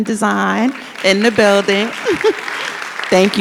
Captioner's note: audience applauds